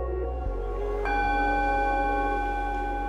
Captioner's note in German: Gong-Ton